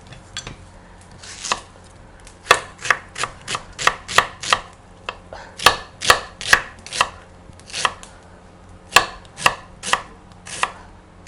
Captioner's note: chopping onions finely & throwing in the sizzling pan